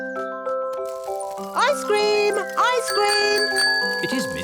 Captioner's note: rings bell